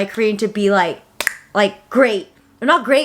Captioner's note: clicks tongue